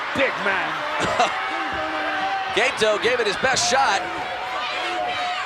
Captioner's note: laugh